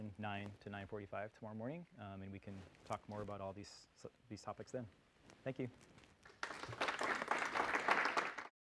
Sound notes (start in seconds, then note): 6.2 applause